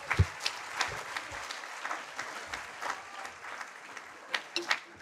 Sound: audience applauding

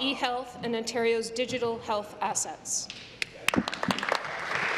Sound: applause

